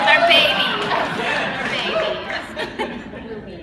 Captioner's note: laughter